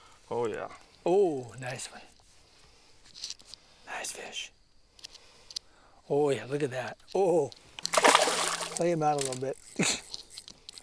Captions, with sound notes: oh yeah! oh nice one. nice fish Oh yeah look at that! OOOH! [Big Splash] Play him out a little bit. [Laughter]